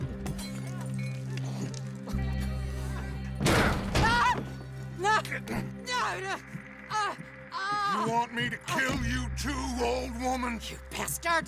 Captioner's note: kicks a door open and a woman screaming is heard